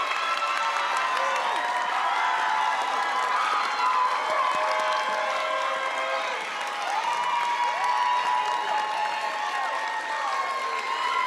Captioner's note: crowd cheering